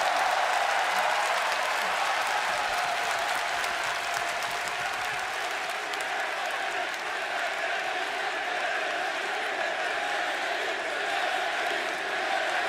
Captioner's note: crowd cheering